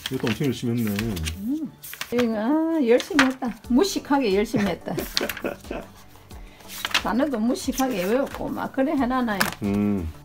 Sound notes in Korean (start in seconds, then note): 4.5 웃음